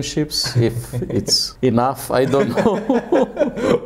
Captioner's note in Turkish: Gülüşmeler